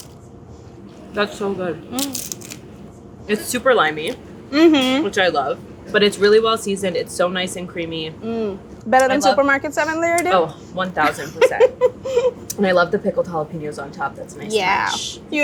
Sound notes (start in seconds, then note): 11.0 laughs